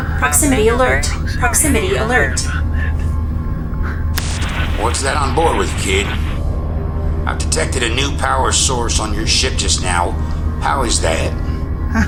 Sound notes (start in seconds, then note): 3.3 button clicking; 4.1 static buzzing